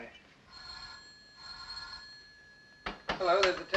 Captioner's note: phone ringing